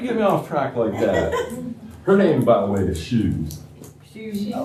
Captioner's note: laughter